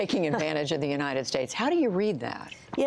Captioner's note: laughter